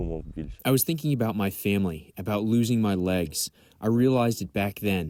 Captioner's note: through translator